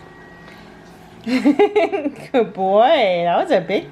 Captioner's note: laughing